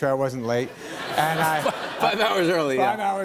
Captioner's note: laughter